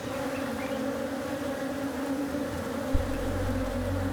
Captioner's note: bees buzzing